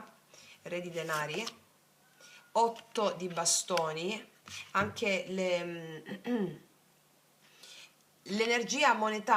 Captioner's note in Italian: schiarire la voce